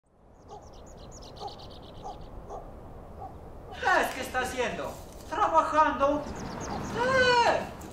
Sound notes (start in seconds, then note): 0.1 birds chirping; 0.4 dog barking; 3.8 speaking in foreign language